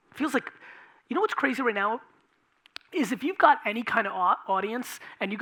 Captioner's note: none